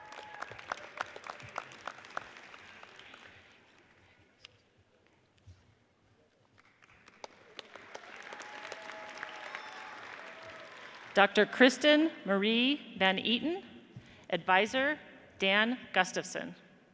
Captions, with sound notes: (audience cheers and applauds) (audience applauds) Dr. Kristen Marie van Eaton, adviser Dan Gustavson